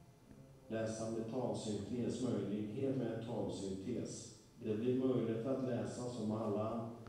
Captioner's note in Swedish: röst som läser text